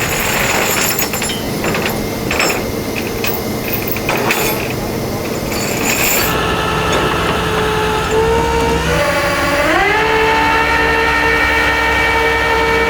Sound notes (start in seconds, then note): 0.0 chains clinking; 8.0 truck buzzing